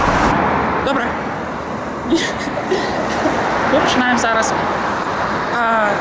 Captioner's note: laughs